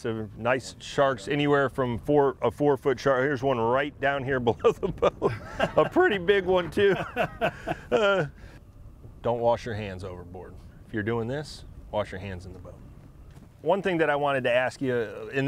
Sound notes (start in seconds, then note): 7.1 laughs